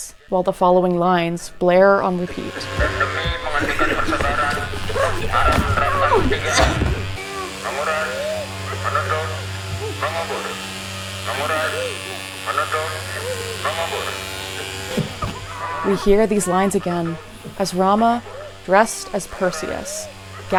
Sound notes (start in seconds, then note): 3.4 sounds of sirens, people coughing, and dialogue in Indonesian